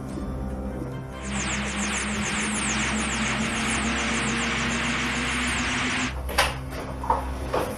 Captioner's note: TARDIS sound in flight